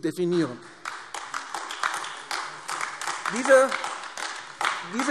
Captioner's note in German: Beifall AfD